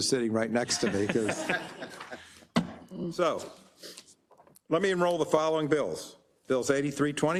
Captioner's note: laugh